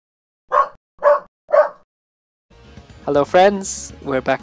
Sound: dog barks

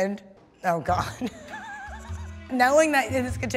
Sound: laughs

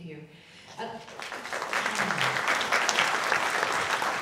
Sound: audience clapping

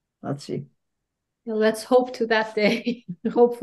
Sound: chuckles

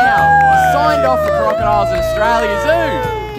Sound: cheering

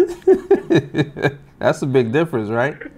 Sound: laughing

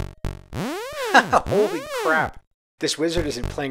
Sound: laughs

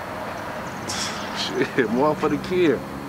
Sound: scoffs

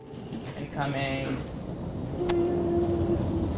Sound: chilled music continues; wheels rolling

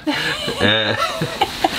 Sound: laughing

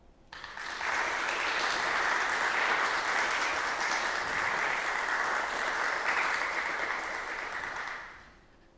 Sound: applause

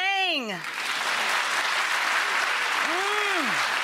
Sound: applause

